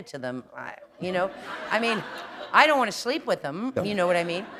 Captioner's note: laughter